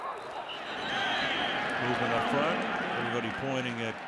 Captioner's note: whistles